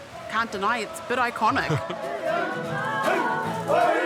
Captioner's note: chuckles